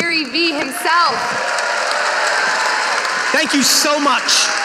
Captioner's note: audience applauding